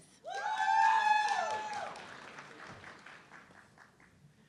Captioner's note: audience cheering